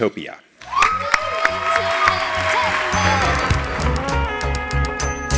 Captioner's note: applause